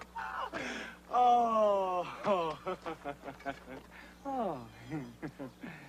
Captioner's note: laughs